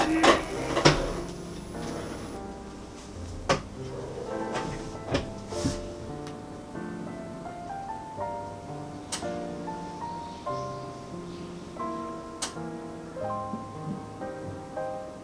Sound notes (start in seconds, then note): 2.6 heated oven